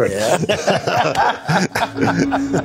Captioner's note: chuckles